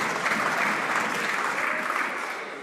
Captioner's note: some Applause